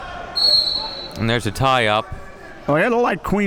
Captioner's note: whistle blowing